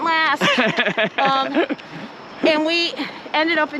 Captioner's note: laughs